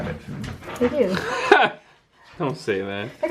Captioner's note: laughter